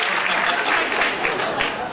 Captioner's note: applause; laughs